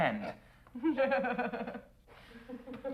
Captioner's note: laughing